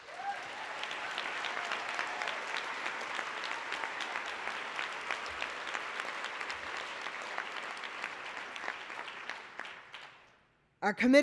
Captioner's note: applause